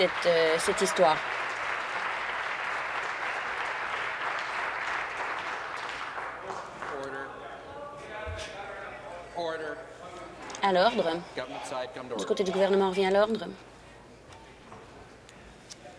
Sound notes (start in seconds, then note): 4.1 some Applause